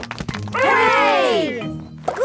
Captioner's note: crowd applauding